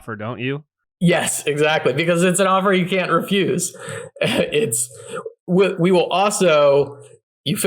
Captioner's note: laughs